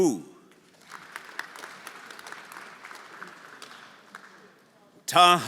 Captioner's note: everyone applauding